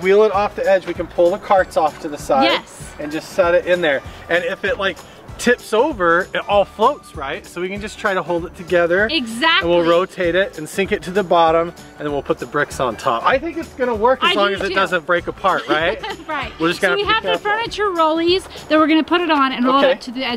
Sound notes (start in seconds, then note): 15.5 laughs